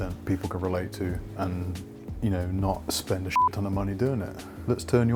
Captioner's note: beep